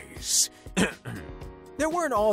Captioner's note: clearing throat